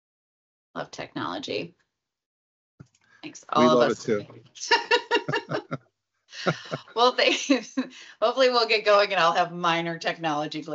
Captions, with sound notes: Love technology. Thanks all of us. We love it too. (both laugh). Well, thanks. Hopefully we'll get going and I'll have minor technology